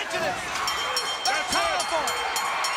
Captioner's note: bell ringing